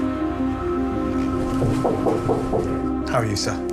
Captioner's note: knocks on door